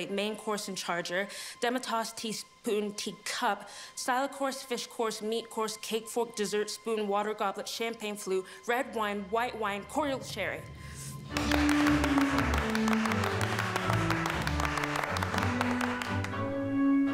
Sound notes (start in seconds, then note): 11.1 triumphant music; 11.2 friends clapping